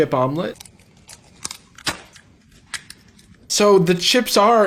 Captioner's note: egg cracks